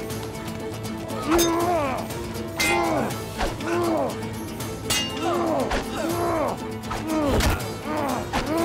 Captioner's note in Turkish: Dövüş sesleri